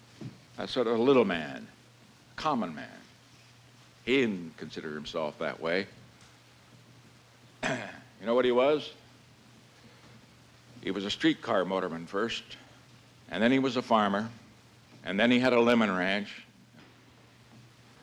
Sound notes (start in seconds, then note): 7.6 clears throat